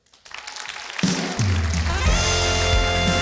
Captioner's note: audience applauding; blues music